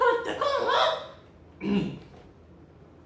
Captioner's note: clears throat